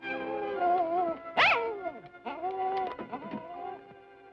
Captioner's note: dog whimpering